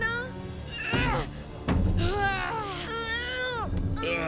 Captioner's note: groaning